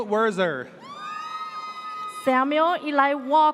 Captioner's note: audience cheers